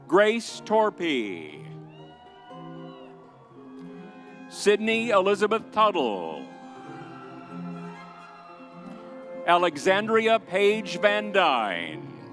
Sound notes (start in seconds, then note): 1.8 audience cheers; 1.9 vibrant music continues; 6.8 vibrant music continues